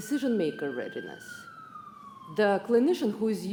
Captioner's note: siren wailing